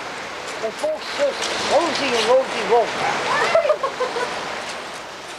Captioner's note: they laugh